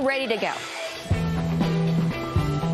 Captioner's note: engine roars; upbeat music